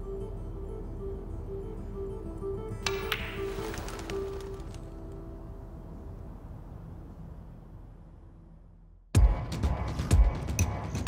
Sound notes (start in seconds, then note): 1.3 clatters